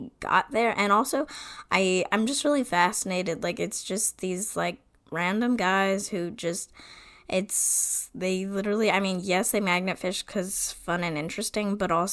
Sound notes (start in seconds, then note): none